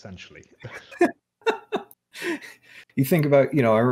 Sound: laughing

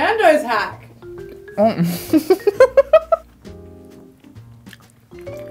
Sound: laughing

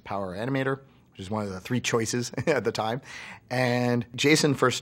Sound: laughs

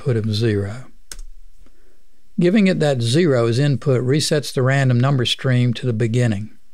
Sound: clicking

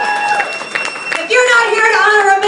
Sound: clapping

